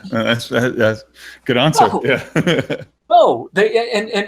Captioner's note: laughs